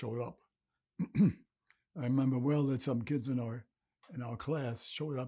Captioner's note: clears throat